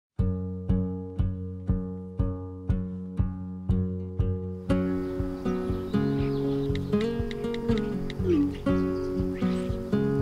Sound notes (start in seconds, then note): 0.7 light acoustic music; 4.6 birds chirping; 6.7 phone keys tapping